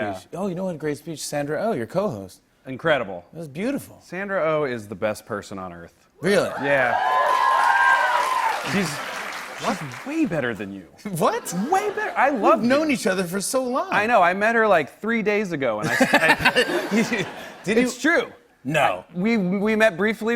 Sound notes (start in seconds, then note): 6.5 cheers and applause; 15.8 laughter